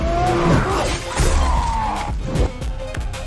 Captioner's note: grunting